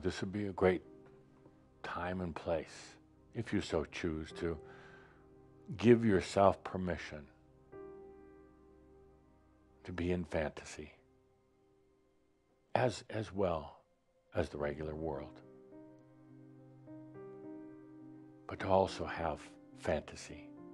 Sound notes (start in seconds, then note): none